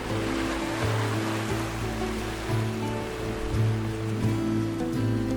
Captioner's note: gentle music; waves crashing